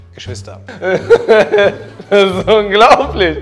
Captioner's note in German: Lachen